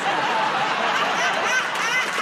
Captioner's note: laughter